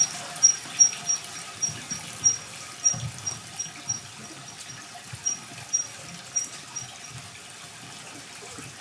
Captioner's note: water trickling continues; pulley mechanism squeaks